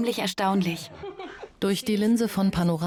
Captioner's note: Charles laughs loudly